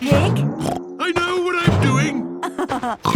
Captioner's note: snorts; laughs